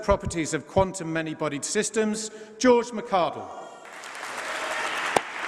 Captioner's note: applause